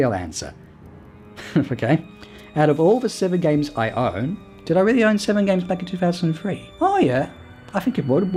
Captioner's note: chuckles